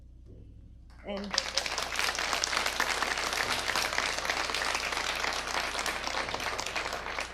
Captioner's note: audience applause